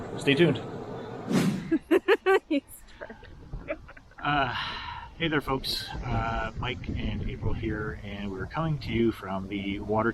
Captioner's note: both laughing